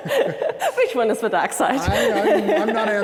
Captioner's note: laughing